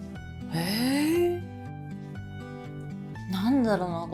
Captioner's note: gasps